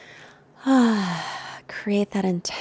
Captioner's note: sighs